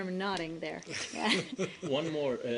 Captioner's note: laughter